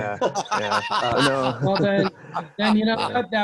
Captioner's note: laughs